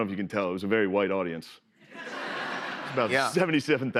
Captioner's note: laughter